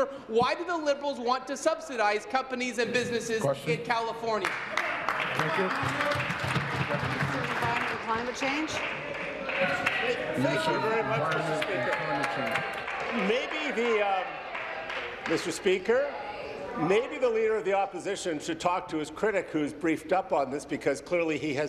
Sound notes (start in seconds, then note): 10.6 applause